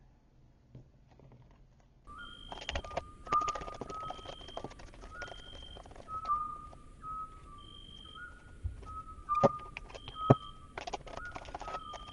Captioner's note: owl hoot calls